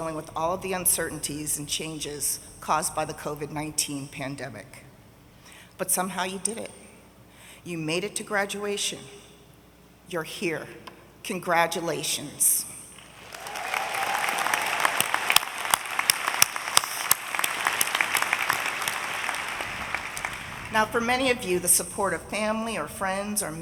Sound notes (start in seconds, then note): 13.0 audience applauding